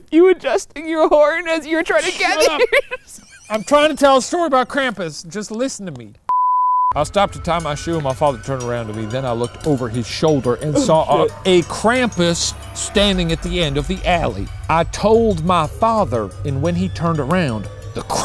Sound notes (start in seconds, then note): 1.9 laughing; 1.9 laughs; 6.3 beep